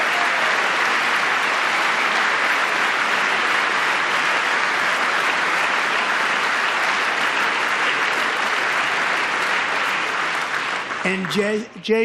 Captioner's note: applause